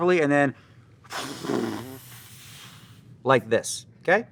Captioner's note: exhales loudly